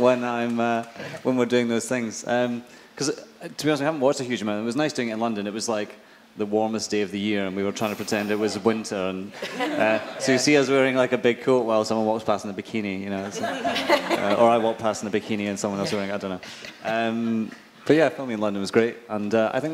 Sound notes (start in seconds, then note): 9.4 laughing; 13.2 audience laughing